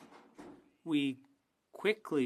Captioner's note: speaking French